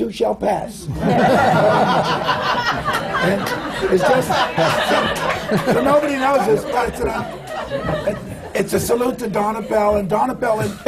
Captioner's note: laughter